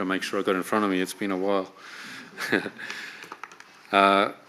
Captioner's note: laughs